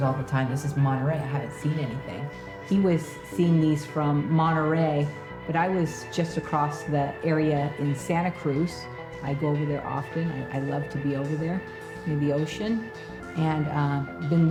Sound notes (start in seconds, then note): none